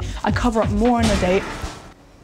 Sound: loud Bang

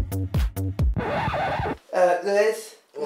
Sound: high energy music; record scratch – music stops

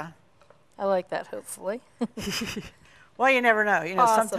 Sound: both laugh

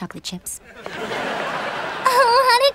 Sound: laughing

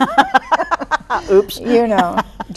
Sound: laughs

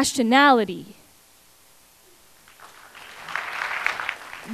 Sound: applause

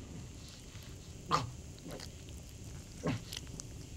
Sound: gurgling

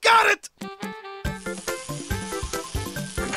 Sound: buzzing/hammering

